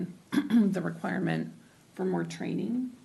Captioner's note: clearing throat